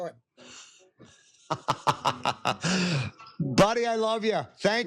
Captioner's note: laughter